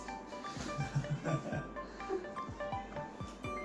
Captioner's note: laughs Nervously